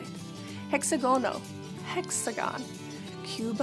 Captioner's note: speaking in foreign language